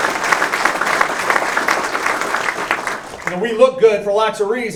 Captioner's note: applause